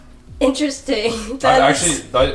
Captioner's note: chuckles